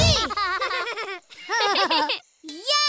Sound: laughing

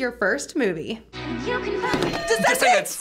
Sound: bells ring

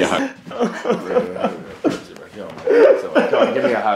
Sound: happy cries

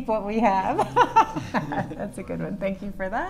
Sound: laughing

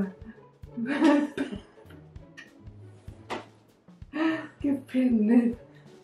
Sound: both laughing

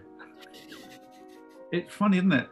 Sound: sniggering

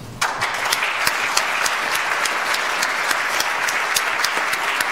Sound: audience applauds

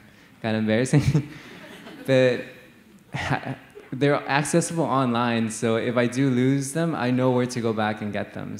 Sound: laughter

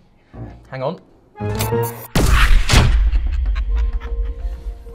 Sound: sci-Fi Explosion

